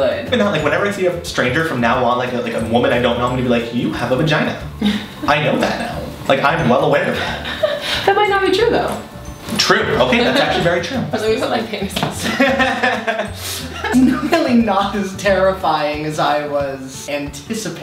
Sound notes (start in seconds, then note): 12.2 laughing